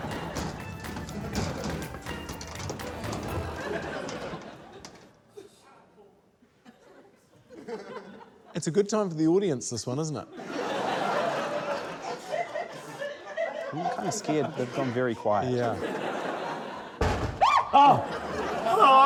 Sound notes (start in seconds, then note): 2.5 mysterious music; 7.4 scattered laughter; 12.8 laughter